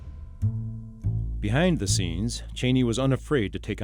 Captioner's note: voiceover